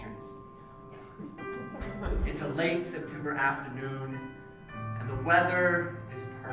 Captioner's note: laugh